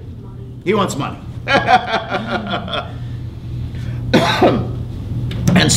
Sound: laughs

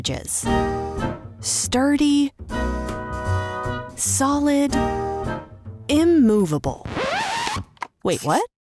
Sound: record scratch, inaudible whispering

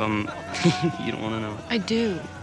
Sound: laughs

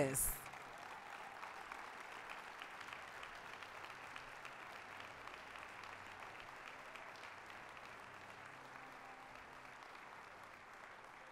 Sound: applause

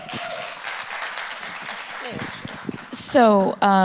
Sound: audience applauds

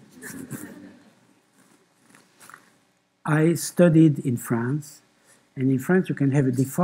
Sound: laughter

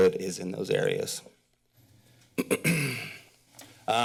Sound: pause; clears throat

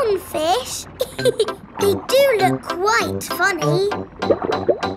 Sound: laughs

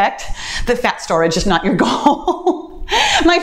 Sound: laughs

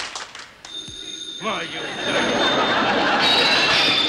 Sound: phone rings

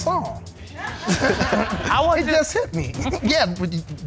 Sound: audience laughing

